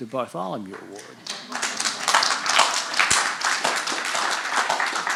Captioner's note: audience applauding